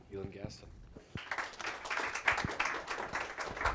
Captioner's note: applause